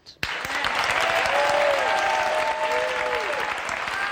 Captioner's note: crowd applauding